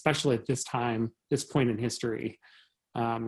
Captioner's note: chuckles